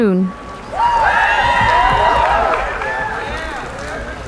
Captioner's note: cheering